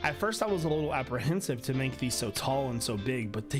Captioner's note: none